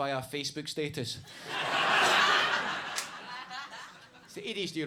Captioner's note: audience laughs